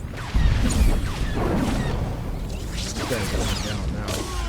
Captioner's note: explosion